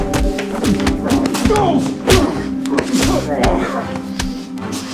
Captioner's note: smacking; grunting; dramatic music